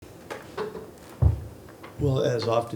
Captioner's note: objects thudding